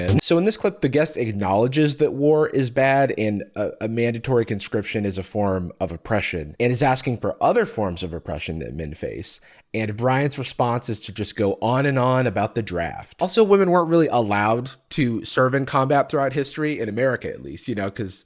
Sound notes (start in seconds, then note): none